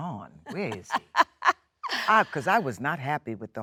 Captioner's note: Jennifer laughs